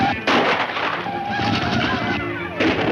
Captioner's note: chanting